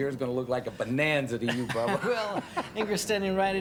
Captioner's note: laughs